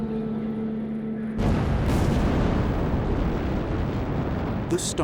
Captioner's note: rocket launching